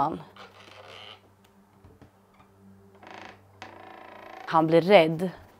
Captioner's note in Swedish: Knarrande ljud